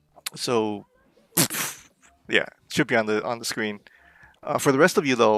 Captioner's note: blows a raspberry